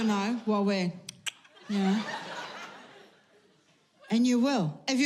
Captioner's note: tongue clicks